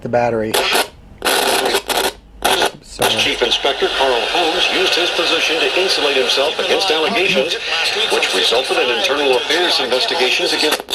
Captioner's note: Noise of multiple AM broadcast stations together